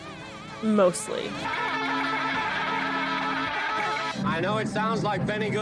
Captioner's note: screaming